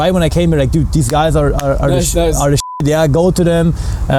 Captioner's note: beeping